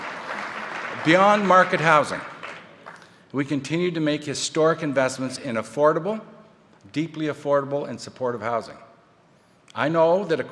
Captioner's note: applause